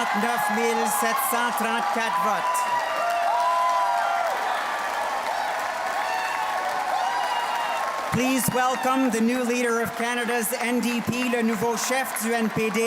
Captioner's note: cheers and Applause